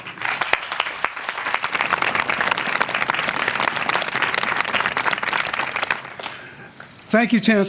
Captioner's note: applause